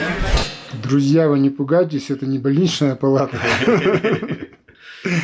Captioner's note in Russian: смех